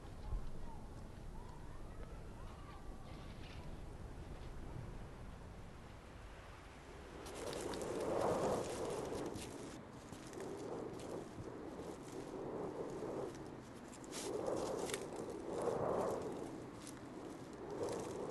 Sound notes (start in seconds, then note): 9.6 wind blowing